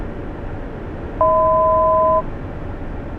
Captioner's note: 1,000 foot chime